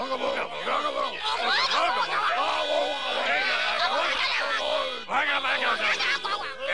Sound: people arguing

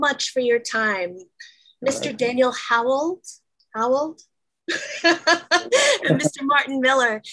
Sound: laughs

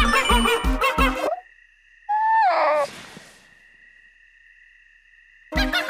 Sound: Mizutsune yawns

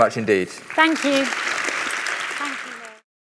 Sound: applause

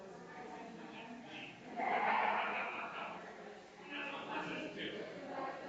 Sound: people chattering distantly continues

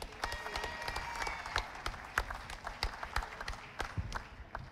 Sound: audience applauding

